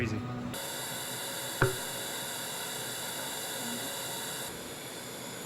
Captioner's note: whirring and popping